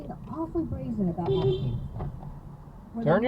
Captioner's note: beepbeep